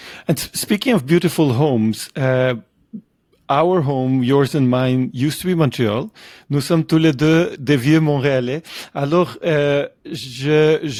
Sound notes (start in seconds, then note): 6.3 French